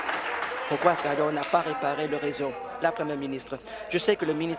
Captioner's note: applause